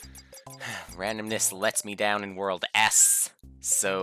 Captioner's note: sigh